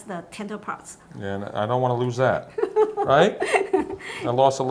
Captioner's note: laughs